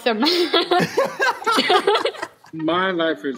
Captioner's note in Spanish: risas